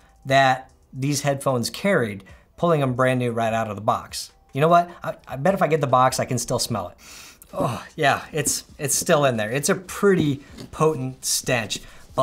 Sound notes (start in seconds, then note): 7.0 inhales